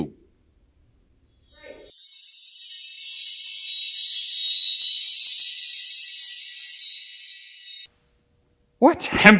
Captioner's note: windchimes